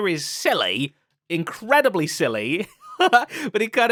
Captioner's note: laughs